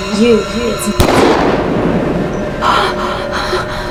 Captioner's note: gunshot